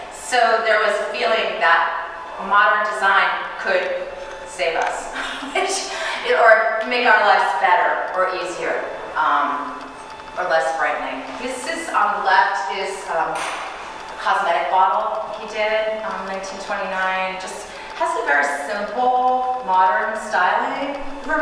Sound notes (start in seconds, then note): 5.1 chuckling